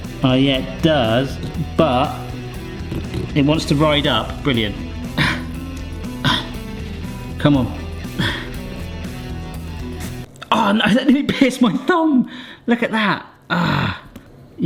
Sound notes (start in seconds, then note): 6.1 person breathing